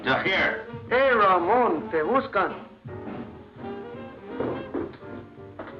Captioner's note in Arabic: يتحدث الإسبانية